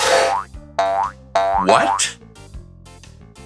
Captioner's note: creature continues on, making a “Boing-Boing” sound; creature returns the other way, making a “Boing-Boing” sound; stops and makes raspberry sound with his tongue